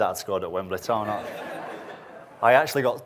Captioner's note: audience laughs